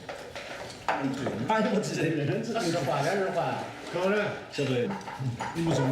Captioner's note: both speaking foreign language